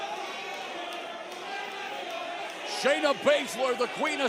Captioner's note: crowd chatter